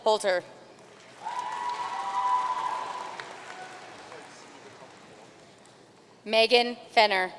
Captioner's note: audience cheering and applauding